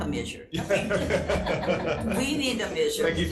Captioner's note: everyone laughs